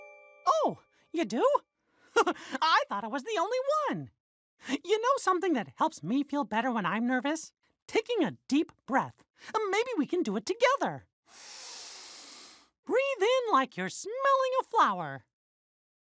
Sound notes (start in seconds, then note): 11.3 inhales